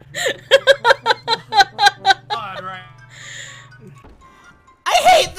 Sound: continues laughing

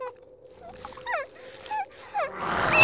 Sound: crying; growl; snarl

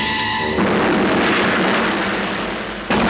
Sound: explosion

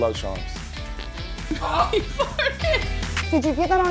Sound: dog farts

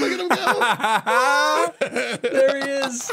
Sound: laughs

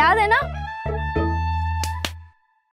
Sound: clapping

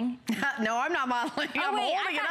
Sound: laughter

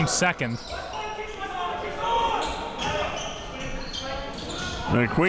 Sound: crowd cheering

